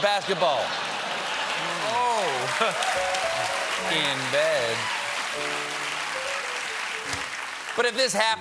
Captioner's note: applause